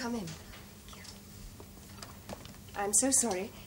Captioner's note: whispers